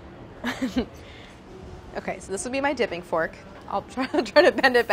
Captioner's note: laughing